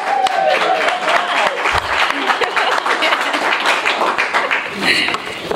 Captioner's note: applause